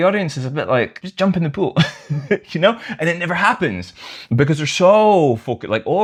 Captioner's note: laughter